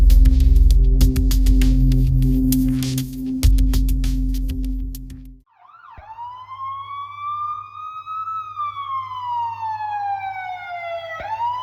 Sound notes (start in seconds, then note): 7.1 cops arrive. Sirens can be heard